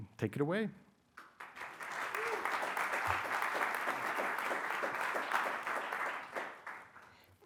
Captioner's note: applause